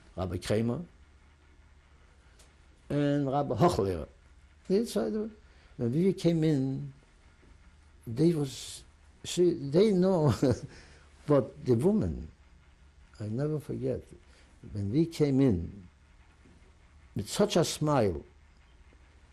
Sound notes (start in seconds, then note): 10.2 laughs